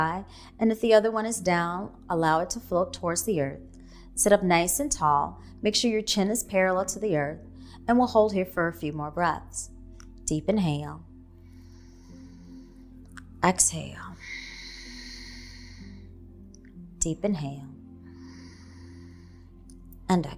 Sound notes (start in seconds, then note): 14.1 exhaling; 14.2 inhaling; 18.6 inhaling